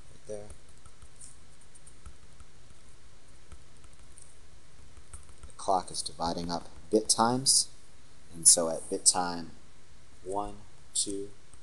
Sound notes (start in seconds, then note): 0.6 writing